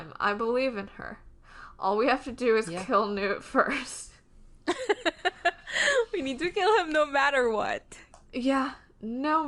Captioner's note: laughs